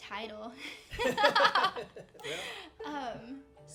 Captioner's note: group laughs